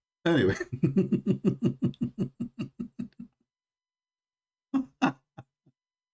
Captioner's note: Ketawa